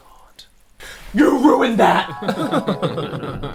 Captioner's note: screamed in a terrifying voice